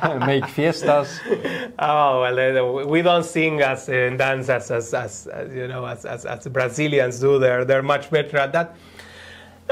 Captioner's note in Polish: Śmiech